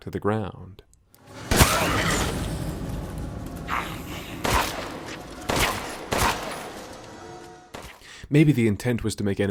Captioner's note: buckshot and gunfire